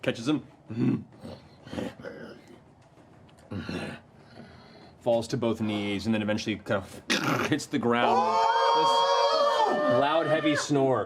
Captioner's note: grunts